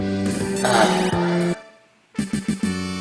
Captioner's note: relieved sigh